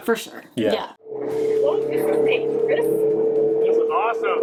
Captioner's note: engine rumbling